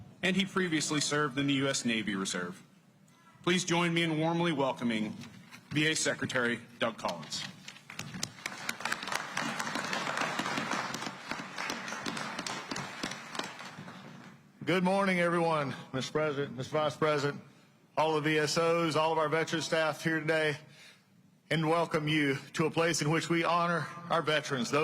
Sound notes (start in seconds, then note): 7.8 applause